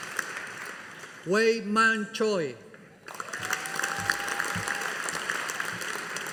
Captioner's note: audience applauding